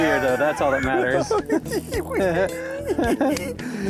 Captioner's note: both laugh